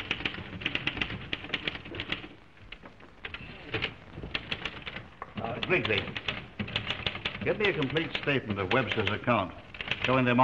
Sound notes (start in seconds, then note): 0.0 typewriter keys clacking